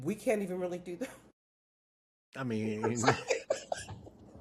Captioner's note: laughing